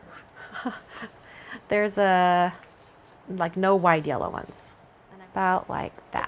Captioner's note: laughs